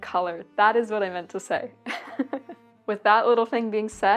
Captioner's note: laughs